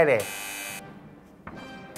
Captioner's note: buzzer sounds